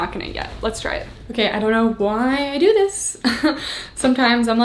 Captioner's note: chuckles